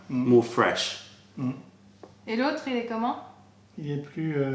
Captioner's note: french